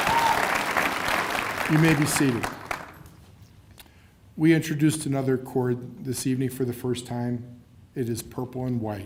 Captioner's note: cheers and applause